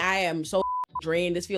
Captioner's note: beep